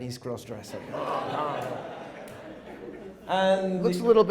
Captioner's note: audience laughing